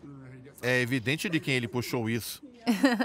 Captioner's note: Harry and Meghan giggle